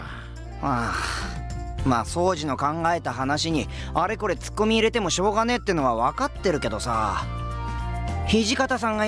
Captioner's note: sigh